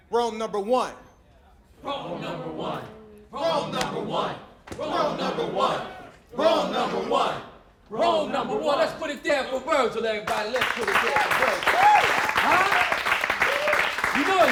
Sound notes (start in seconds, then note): 1.8 crowd, chanting; 10.2 applause